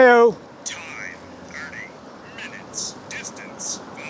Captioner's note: computer voice